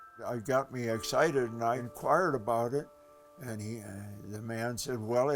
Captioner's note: none